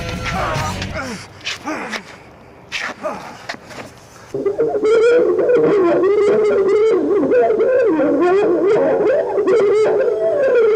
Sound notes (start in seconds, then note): 0.4 victim grunts; 4.6 eerie sound effect